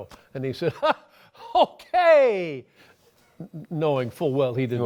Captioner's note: laughs